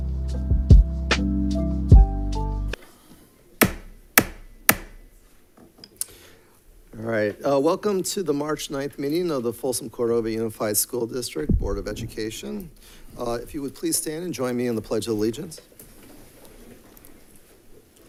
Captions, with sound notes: (gavel bangs) All right. Welcome to the March 9th meeting of the Folsom Cordova Unified School District Board of Education. If you would please stand and join me in the Pledge of Allegiance.